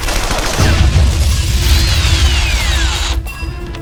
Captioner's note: explosion booms